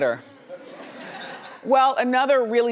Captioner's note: laughs